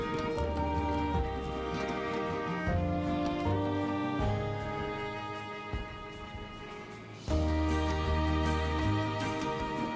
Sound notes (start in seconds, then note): 1.1 suitcase wheels rolling